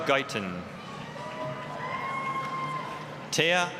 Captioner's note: applause, cheering